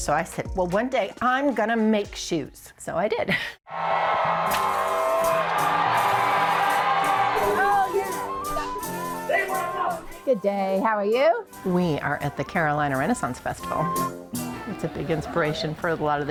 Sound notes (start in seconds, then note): 3.8 people shouting; 6.2 pleasant music